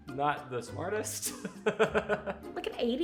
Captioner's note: laughing